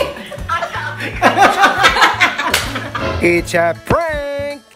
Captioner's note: laughing